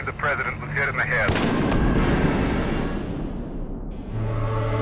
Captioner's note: gun bangs